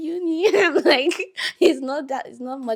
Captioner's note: laughing